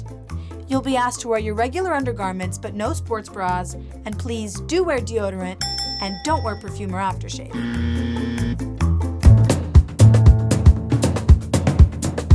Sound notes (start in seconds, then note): 5.6 ding ding; 7.5 buzzer